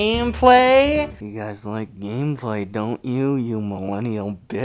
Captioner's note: suddenly lower